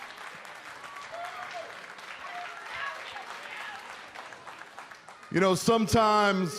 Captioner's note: cheers and applause